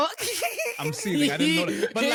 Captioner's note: laughter